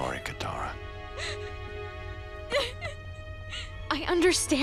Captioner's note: crying